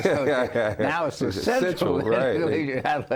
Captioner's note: laughing